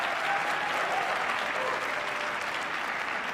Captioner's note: applause